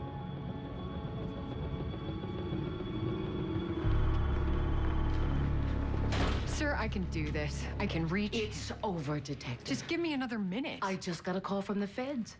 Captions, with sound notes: DETECTIVE. (door closes) SIR, I CAN DO THIS. I CAN REACH HIM. IT'S OVER, DETECTIVE. JUST GIVE ME ANOTHER MINUTE.